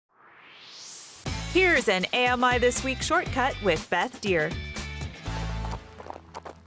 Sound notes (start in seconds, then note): 0.1 swoosh